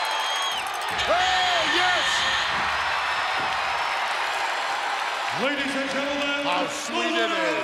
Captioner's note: electricity buzzing